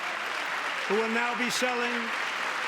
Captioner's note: cheering